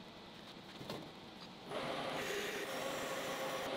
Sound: machine whirling

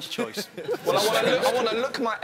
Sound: laughing

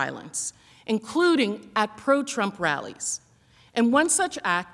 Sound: none

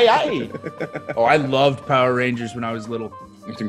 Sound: laugh

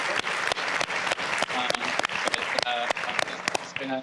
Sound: all applauding

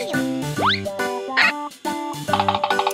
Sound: Nina speaks gibberish; alarmed

